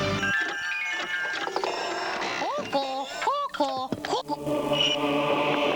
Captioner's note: rhythmic music; ringing